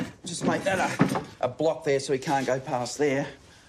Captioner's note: none